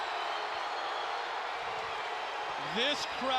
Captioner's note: crowd cheering